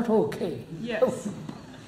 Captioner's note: laughs